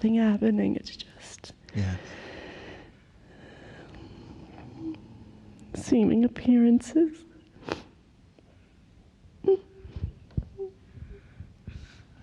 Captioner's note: cries